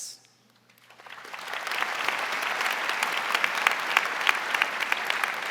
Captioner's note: audience applauding